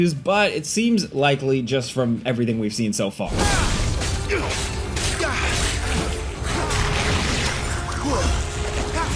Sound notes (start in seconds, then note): 3.2 intense music; 3.4 grunting and slashing